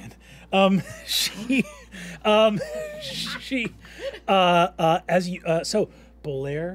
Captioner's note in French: rient